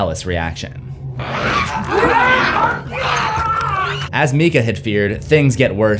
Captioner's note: leila growls and bites Father Todd